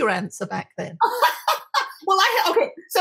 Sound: laughing

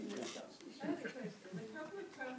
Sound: group chattering

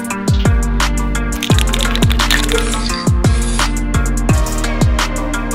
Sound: rattling ball spray can

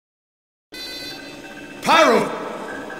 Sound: computer sounds in the background

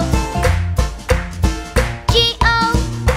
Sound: clap

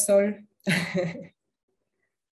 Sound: laughter

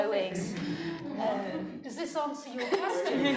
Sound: noise from crowd; laughing

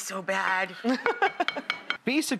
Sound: laughing

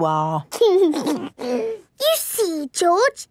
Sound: giggles

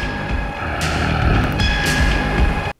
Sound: growl

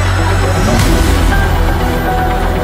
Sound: whhmm-pphhff

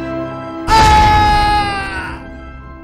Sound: groans

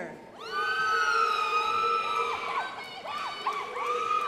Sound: crowd applauding

